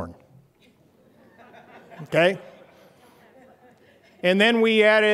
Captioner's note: laughter